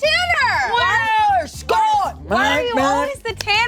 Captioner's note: grunting